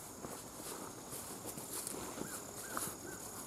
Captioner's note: none